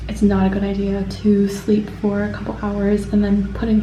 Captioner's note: none